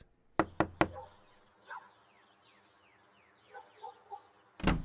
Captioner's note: door knocking